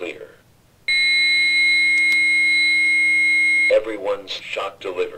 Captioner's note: beeeep